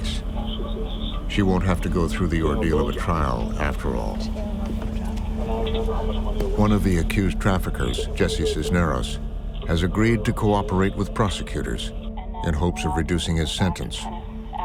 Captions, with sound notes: there's finally a break in Kat's case. She won't have to go through the ordeal of a trial after all. (talking in background) One of the accused traffickers, Jesse Cisneros, has agreed to cooperate with prosecutors